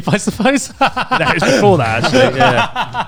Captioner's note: laughs loudly